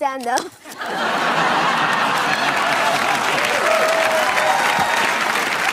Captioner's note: audience laughs and claps